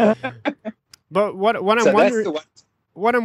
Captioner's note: laughter